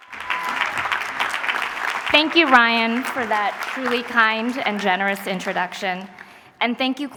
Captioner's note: applause